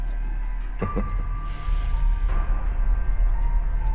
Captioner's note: chuckles